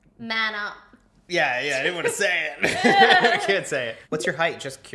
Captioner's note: laughs